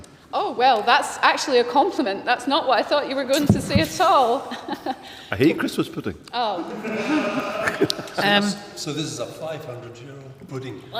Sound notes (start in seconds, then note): 4.4 laughs; 6.7 laughter